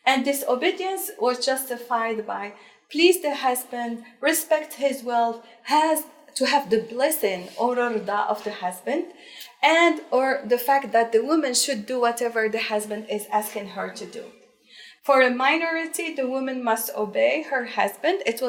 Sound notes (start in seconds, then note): 7.2 speaking in foreign language